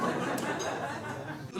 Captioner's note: audience laughing